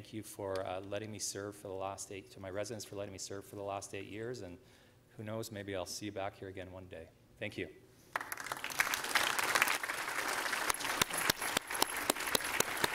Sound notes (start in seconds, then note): 11.9 applause